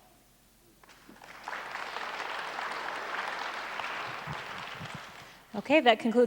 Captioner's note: applause